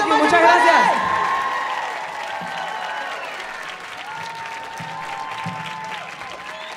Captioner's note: audience cheering and applauding